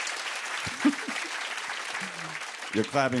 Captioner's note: laughs